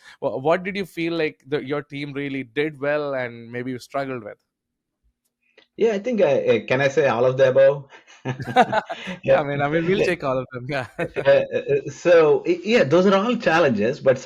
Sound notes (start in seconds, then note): 8.2 both laugh